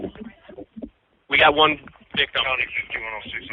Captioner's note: chatter; chatter